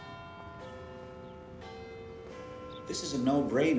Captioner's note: bells chiming